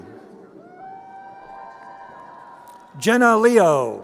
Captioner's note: crowd cheering